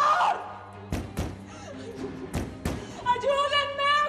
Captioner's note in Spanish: sollozos; golpes